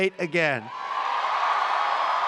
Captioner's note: applause